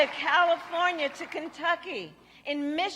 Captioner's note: applause